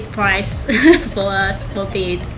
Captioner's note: laughing